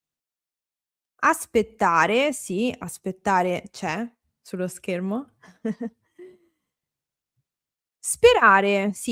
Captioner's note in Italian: risate